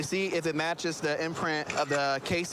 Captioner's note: camera app clicks